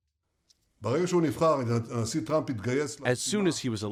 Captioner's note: through translator